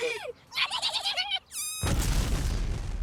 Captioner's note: laughing